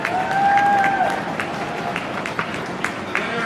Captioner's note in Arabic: عدة أقدام تدوس في وقت واحد